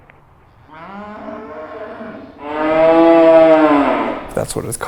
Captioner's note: cows Mooing